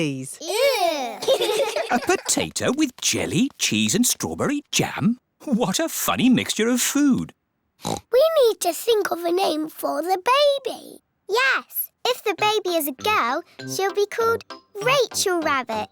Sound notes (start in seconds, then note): 0.4 giggling; 7.8 oinks